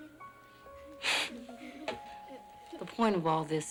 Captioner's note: sniffles